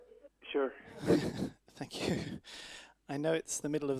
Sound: laughs

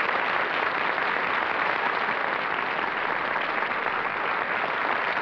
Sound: applause

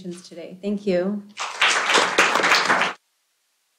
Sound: applause

